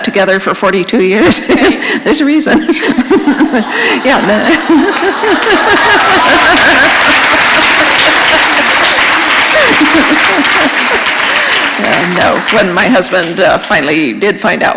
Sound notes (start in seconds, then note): 4.1 laughter; 5.8 applause